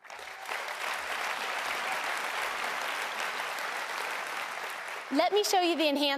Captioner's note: applause